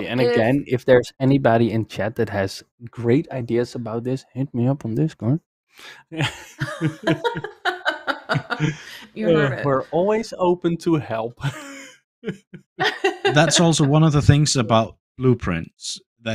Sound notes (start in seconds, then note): 6.1 laughter; 12.8 laughs